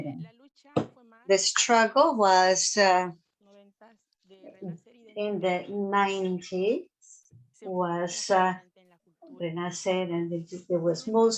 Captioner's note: spanish